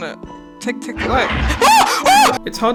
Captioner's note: creature screeches; screams loud enough to peak the mic